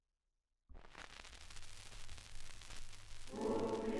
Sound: fire crackling

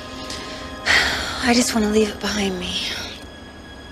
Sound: Meg sighs

